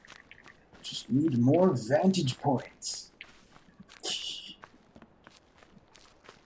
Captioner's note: titters